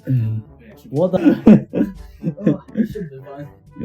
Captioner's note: laughing